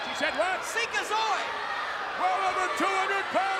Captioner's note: speaking in foreign language